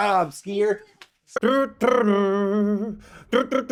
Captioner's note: imitates skier